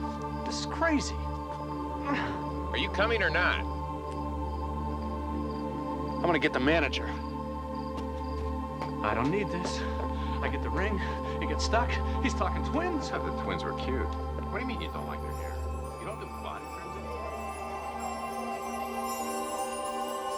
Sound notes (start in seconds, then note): 16.8 tinkling